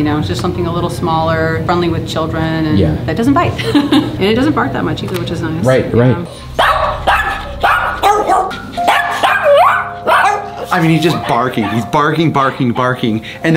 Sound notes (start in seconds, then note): 6.5 Pugsly barks